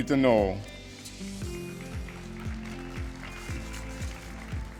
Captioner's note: applause